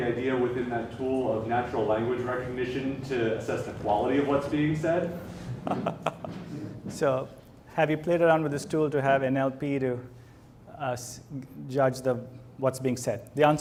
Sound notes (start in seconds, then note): 5.4 laughs